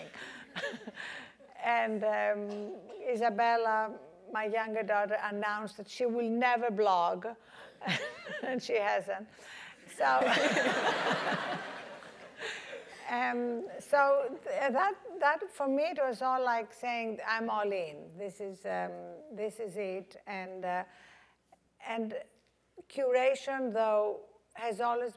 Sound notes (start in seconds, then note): 0.1 laugh; 10.2 laugh